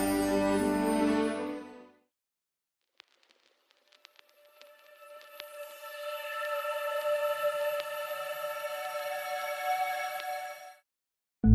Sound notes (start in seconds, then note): 2.8 crackle of vinyl record